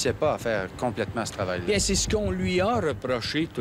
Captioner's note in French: none